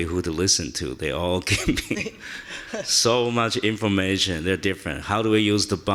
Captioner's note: chuckles